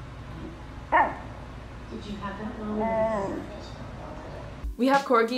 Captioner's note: corgi snorting; corgi quietly barking